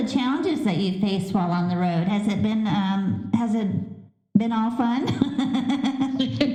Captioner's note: laughter